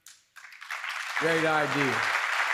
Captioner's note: applause